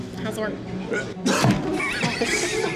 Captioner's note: smack